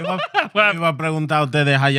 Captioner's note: laughing; speaking In Foreign Language